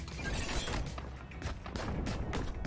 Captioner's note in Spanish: Sonido de metal